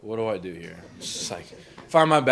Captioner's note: crowd laughs